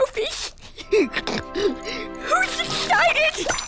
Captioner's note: snorts